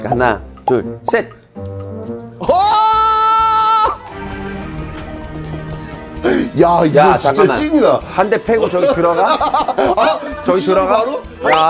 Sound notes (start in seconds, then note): 4.0 shocked